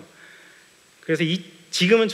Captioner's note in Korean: none